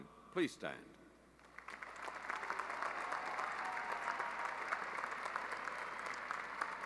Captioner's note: applause